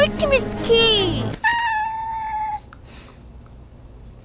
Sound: meow

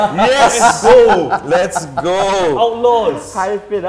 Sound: laughs

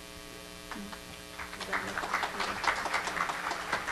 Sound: applause

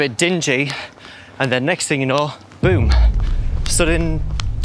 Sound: boom sound effect

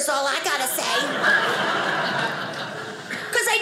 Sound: audience laughing

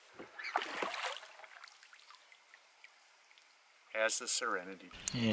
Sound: oars lapping

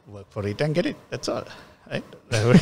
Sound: laughs

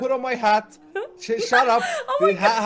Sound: laughing

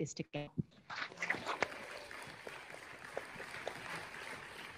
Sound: audience applauding

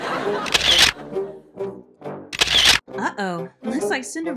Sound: audience laughing; camera flash

